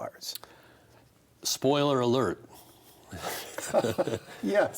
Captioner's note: both laugh